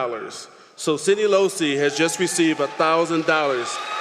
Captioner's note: applause